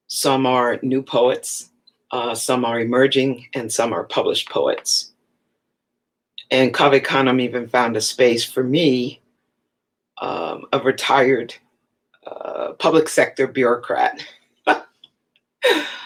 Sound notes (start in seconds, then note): 13.7 laughs